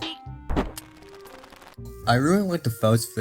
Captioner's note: tazer noises